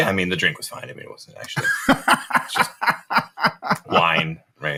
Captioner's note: laughs